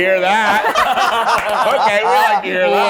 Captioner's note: all laughing